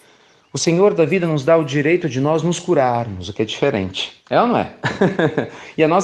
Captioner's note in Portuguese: Risos